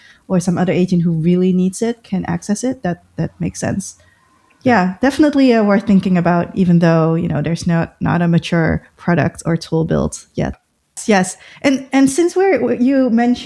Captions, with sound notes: some other agent who really needs it can access it that that makes sense. Duh Yeah, definitely [UH] worth thinking about even though, you know, there's not not a mature product or tool built yet.